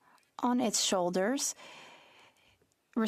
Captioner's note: speaking French